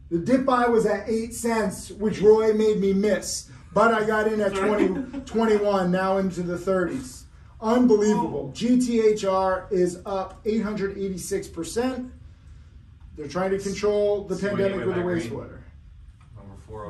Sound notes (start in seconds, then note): 3.7 laughing